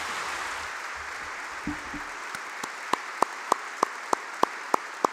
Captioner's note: applause